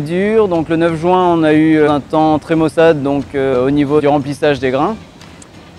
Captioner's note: wind and rain